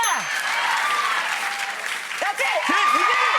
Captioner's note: bell dings; crowd applauds